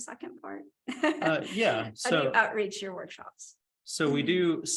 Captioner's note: laughter